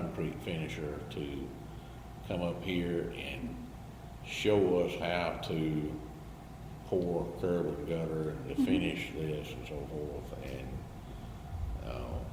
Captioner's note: BOTH laugh